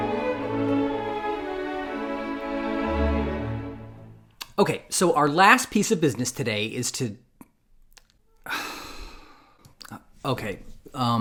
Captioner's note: long sigh